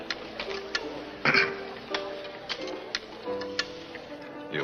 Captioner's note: Jerry clears throat